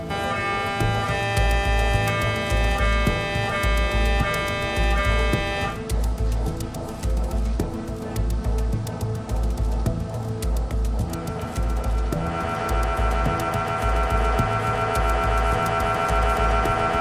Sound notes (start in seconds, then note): 0.0 MRI machine is working loudly; 5.2 suspenseful music; 12.1 MRI machine is working loudly